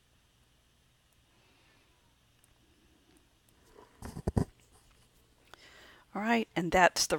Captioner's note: silent